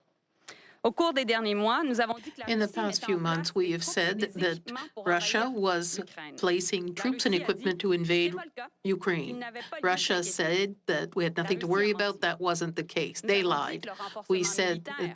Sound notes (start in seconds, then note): 8.2 speaking French